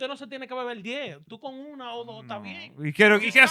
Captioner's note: speaking In Foreign Language